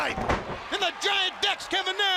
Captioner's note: crowd chatter